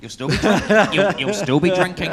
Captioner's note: laughs